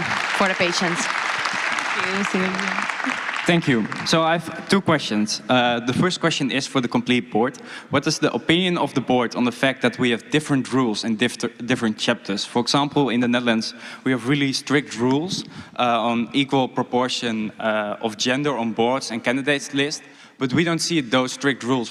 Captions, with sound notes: questions. Thank you for the patients. (Applause) >> Thank you. So I have two questions for the first one is for the complete board, what is the opinion of the board on the fact that we have different rules and different chapters? For example in the Netherlands we have released strict rules on equal proportion of